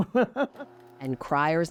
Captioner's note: laughter